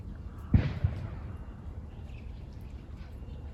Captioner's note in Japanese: 鳥よけの大砲のような音